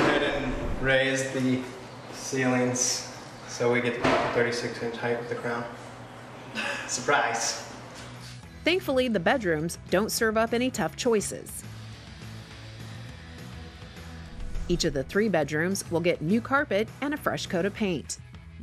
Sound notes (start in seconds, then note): 11.9 whirring